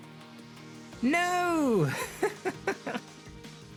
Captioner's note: laughs